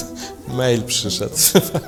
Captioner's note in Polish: śmiech